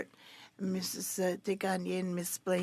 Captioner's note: speaking French